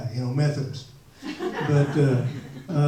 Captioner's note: audience laughs